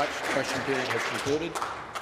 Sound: applause

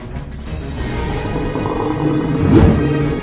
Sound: growling

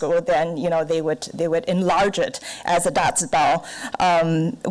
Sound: none

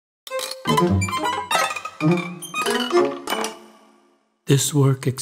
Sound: upbeat classical music; machinery clanking

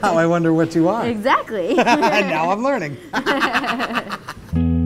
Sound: laughs

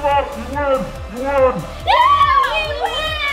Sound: cheering

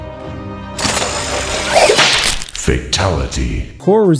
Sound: loud craking sound

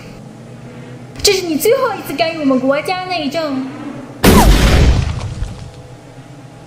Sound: gunshot

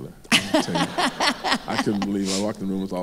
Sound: laughs

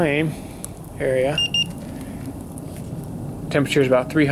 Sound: thermometer beeps

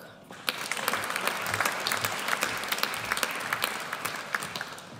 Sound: audience applauds

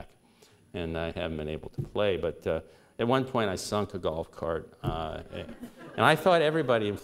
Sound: laughter

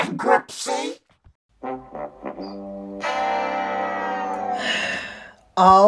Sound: Price is right losing horn

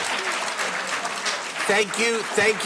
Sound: applauding

